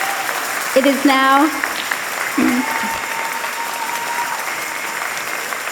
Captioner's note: applause and cheers